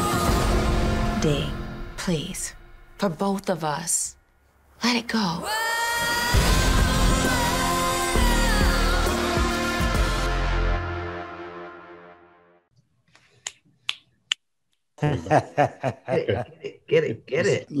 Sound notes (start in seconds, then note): 13.1 snapping; 15.0 laughing